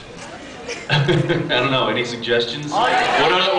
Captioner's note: laughs